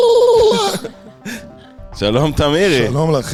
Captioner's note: laughter